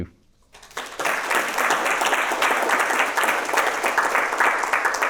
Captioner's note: people clapping